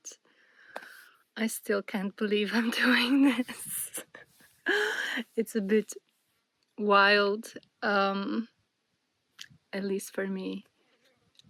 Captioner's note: gasps